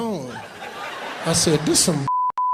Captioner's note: laughing; beeping